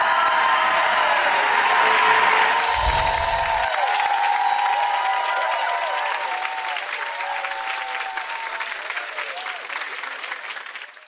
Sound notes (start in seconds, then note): 0.1 clapping; 2.7 twinkle